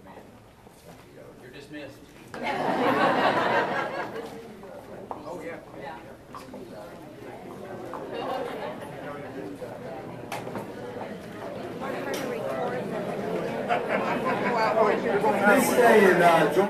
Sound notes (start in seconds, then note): 2.3 crowd laughs